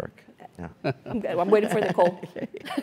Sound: laugh

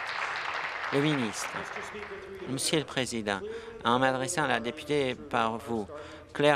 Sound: applause

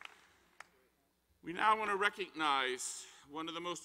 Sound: applause

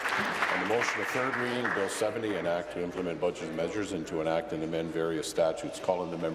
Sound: applause

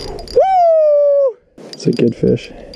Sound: cheering

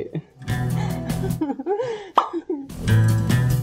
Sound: nervous laugh

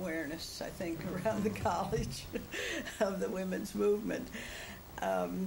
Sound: laughs

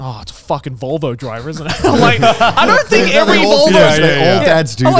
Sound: all laughing

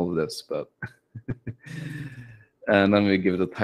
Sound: chuckles

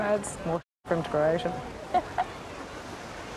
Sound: Becka laughs

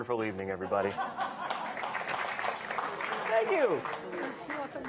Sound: audience laughing; audience applauding

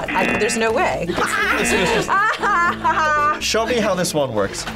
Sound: buzzer rings; laughs

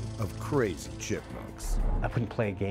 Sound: voiceover

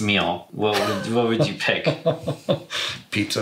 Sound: laughs

